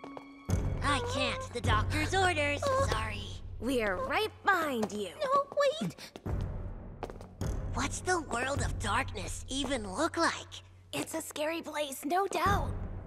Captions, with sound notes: -I can't. The doctor's orders, sorry. -[whimpers] -We're right behind you. -[Hilary whimpers] No, wait. What's the World of Darkness even look like? It's a scary place, no doubt.